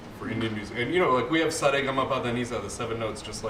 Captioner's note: non-english